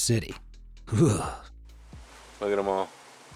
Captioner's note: narrator shudders